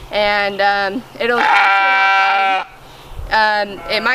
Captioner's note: lamb baas